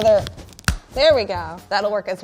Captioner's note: nuts crack